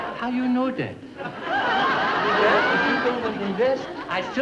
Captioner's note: audience laughing